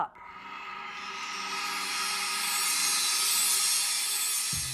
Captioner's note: sound Effects